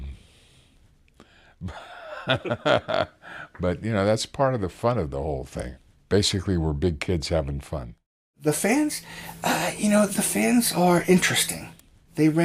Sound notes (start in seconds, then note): 1.6 laughs